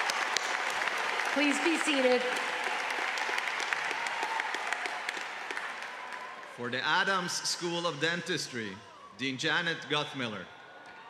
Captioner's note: applause